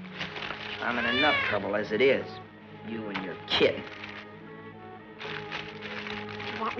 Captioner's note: meow